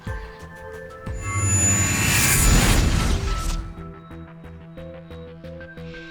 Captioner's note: dramatic air whooshing